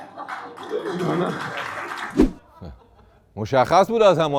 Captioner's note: applause